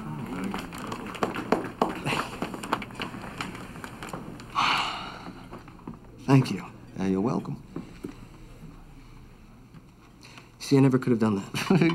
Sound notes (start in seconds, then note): 0.4 men applaud; 4.5 Jake sighs